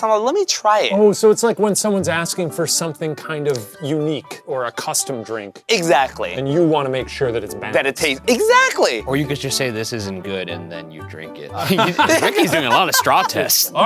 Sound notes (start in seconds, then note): 11.5 all laughing